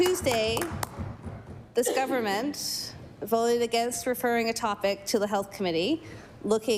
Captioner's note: applause